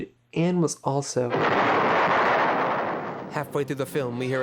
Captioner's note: boom